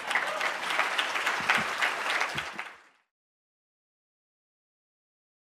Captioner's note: audience laughs and applauds